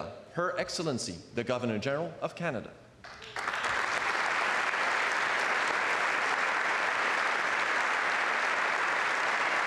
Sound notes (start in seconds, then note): 2.1 speaking French